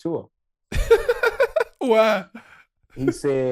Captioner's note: laughing